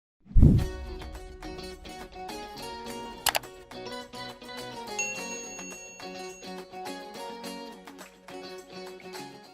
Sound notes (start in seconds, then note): 0.7 happy guitar music; 3.2 mouse clicking; 4.9 bell ringing